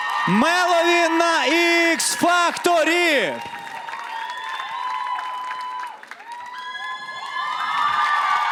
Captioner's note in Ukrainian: оплески